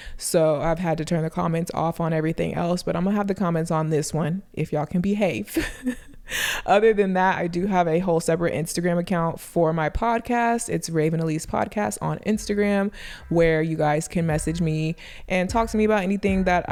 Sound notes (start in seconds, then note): 5.5 laughs